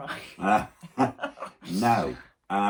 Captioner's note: both laugh